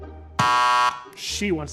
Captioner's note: bell buzzing